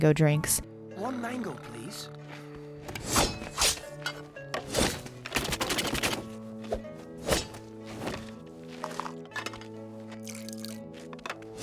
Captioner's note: slicing and dicing